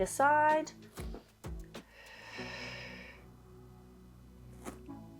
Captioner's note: exhales